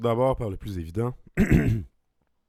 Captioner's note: clears throat